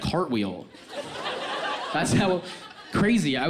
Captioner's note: audience laughs